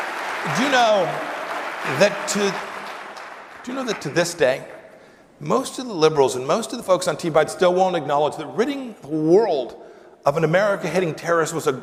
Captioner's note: applause